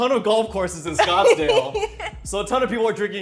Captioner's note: laughing